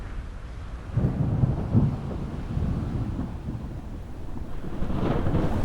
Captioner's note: thunder